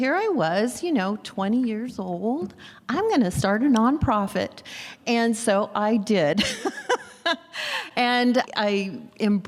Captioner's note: laughs